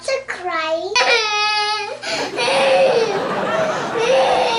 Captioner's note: crying loudly